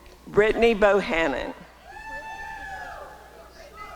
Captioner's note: applause and cheering